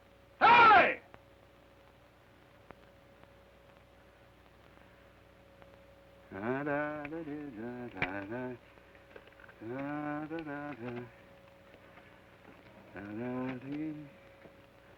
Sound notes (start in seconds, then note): 6.4 hums melodically